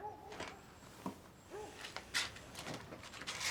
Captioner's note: dog barking